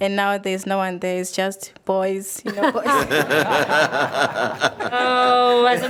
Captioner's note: members laughing